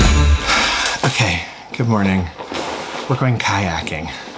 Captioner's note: sighs